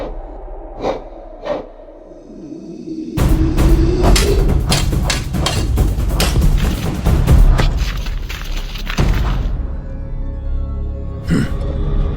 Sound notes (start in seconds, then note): 4.1 fight sounds